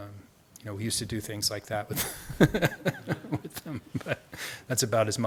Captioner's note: laughs